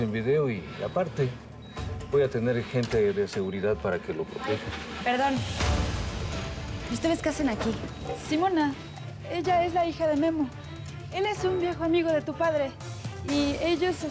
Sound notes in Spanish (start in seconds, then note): 5.2 Ruido en la puerta